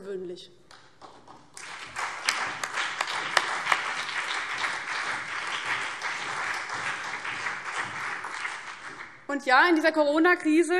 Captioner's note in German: Beifall CDU, BÜNDNIS 90/DIE GRÜNEN und SPD